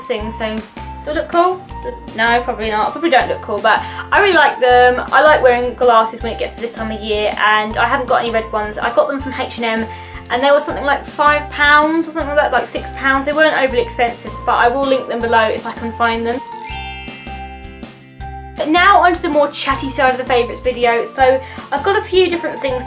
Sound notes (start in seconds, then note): 16.4 bell transition sound effect